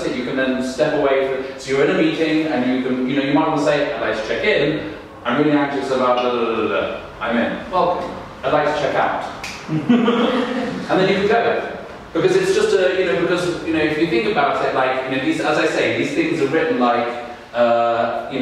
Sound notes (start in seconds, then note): 9.7 audience laughing